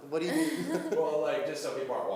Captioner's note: laughing